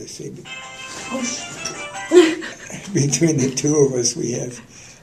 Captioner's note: laughter